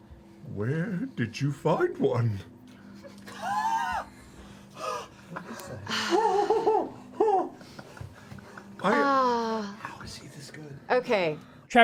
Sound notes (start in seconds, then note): 4.3 gasps